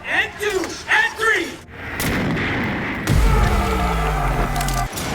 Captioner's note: objects booming